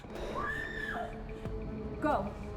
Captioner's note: screaming